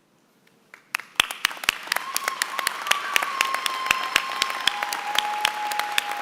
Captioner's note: applause